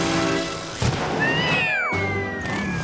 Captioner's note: meowing